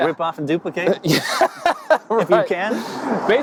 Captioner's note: laughs